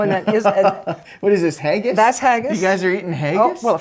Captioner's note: laughing